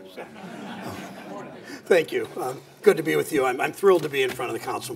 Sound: laughter

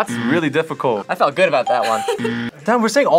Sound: laughs

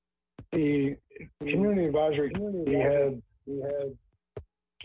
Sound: ~audio distortion~

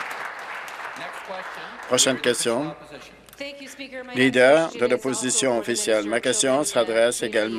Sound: applause

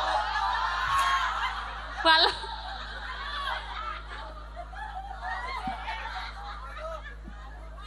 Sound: laughs

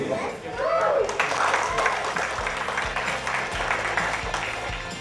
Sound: cheers and applause

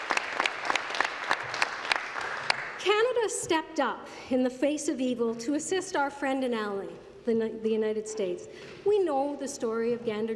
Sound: applause

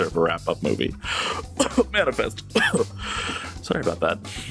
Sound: cough

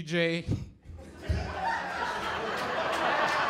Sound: laughter

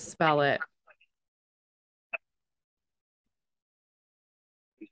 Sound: background call center noise

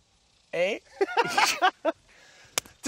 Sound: laughing

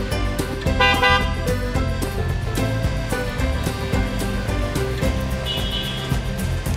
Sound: upbeat music; car horns honk

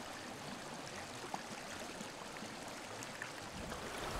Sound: water whirling

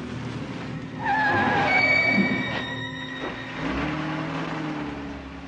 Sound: car screeches to a hault and backs up

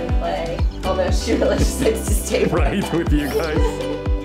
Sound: laughter

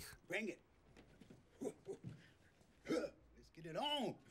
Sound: laughing

